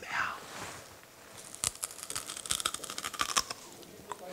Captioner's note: crunchy bite